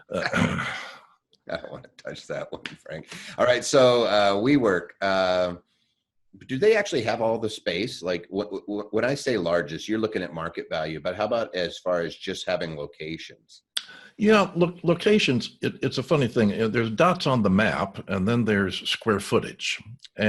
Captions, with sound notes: - I don't wanna touch that one Frank (laughing). All right, so, WeWork, do they actually have all the space? When I say largest, you're looking at market value. But how about as far as just having locations? - You know, locations, it's a funny thing. There's dots on the map and then there's square footage